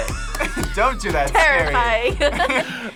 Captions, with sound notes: (group laughs) Don't do that, it's scary! - Terrifying! (both laugh)